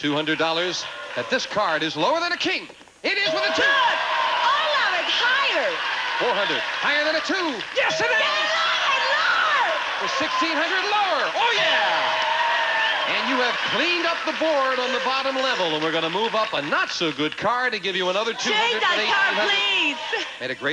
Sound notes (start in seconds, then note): 3.1 audience cheering; 11.5 audience applauding